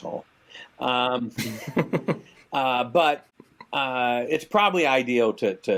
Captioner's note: chuckles